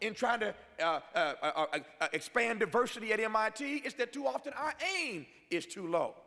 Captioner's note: none